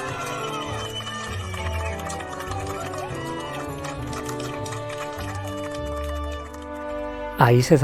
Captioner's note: cheering and applauding